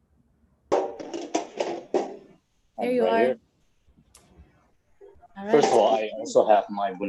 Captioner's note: tin clatters